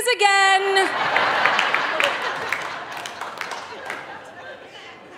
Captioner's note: audience laughing